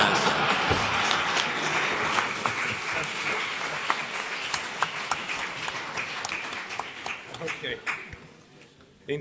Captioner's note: laughs; applause